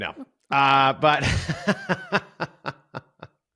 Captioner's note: chuckles